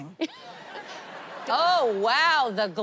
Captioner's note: laughter